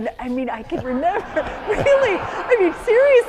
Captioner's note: laughter